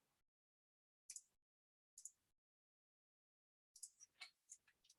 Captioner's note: mouse clicking